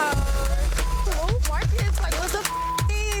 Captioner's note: overlapping chatter